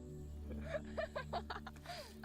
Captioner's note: girls giggling